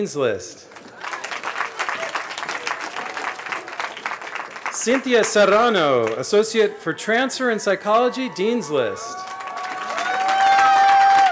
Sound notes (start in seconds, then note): 2.5 applause